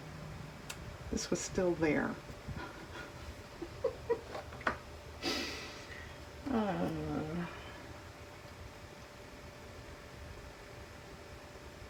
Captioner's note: laughs